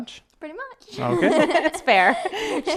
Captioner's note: laughing